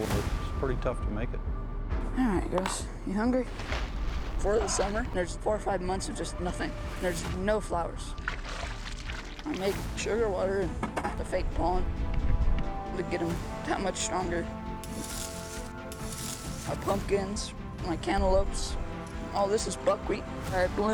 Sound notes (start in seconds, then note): 8.6 splash sounds; 13.5 raking sounds